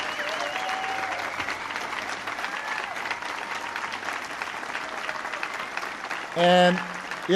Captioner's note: applause